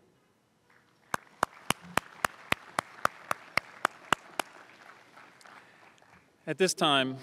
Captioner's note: applause